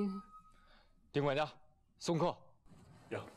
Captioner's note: Ding